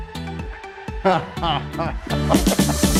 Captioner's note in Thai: หัวเราะ